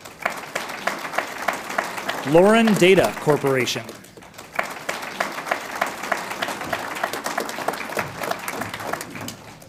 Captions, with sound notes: (audience applauds) Loren Data Corp. (audience applauds)